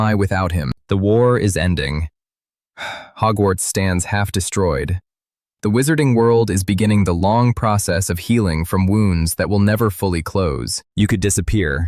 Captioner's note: sighs